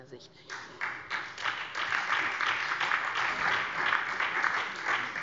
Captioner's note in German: Beifall SPD, vereinzelt AfD und DIE LINKE